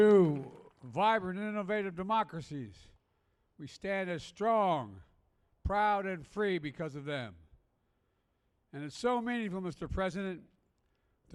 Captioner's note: applause